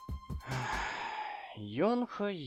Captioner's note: sigh